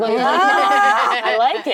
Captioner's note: actresses laughing